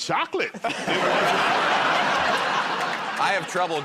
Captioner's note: laughter